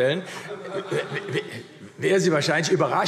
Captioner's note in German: Heiterkeit AfD